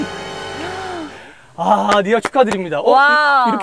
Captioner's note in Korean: 짝짝짝